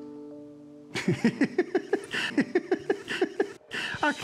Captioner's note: laughing